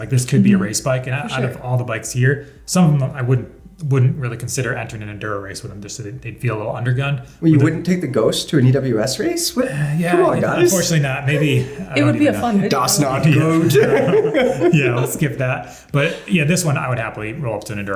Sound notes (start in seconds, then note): 14.1 all laughing